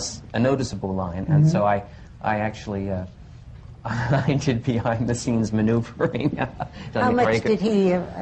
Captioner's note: laughs